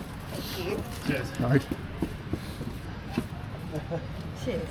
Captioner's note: background chat